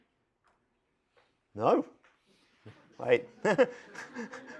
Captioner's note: laughter